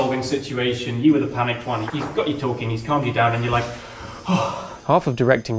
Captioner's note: sighs